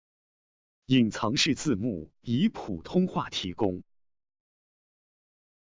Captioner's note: speaking in foreign language